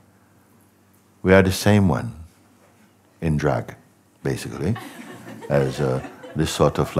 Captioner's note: Lachen